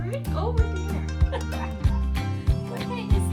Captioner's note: laughs